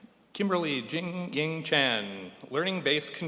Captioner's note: none